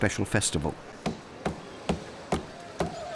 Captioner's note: knife thudding; chickens clucking